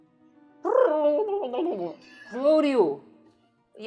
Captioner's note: laughing; imitates underwater noises